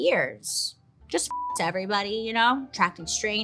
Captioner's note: beeps